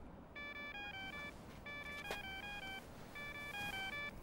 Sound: phone ringing

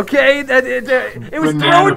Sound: Kuai Stumbles on his Words

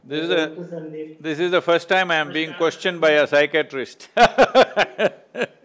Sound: laughs

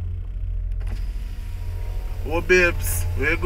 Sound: window rolls down

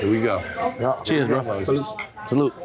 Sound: glasses clink

